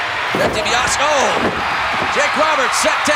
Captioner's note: audience cheering